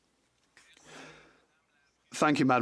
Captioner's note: speaking French